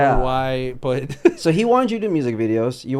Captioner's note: laughs